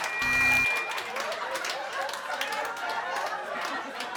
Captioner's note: people laughing; people applauding